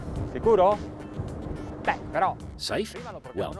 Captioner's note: foreign language